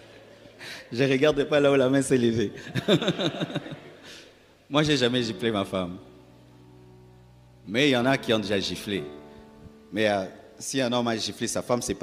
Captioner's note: laughs